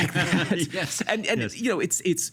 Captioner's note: laughing